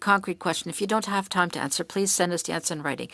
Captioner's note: speaking French